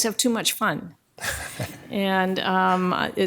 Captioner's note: attendees laughing